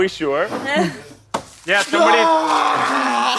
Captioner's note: groans